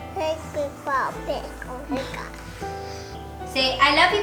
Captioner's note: baby talk